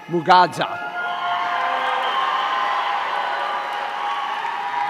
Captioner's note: audience cheering